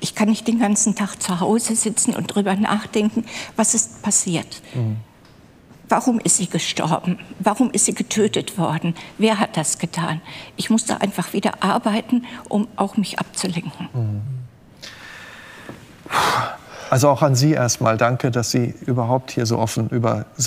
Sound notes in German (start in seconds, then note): 14.8 Tiefes Ausatmen